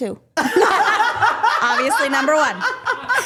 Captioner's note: group laughing